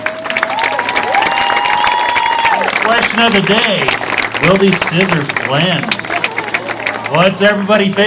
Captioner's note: cheers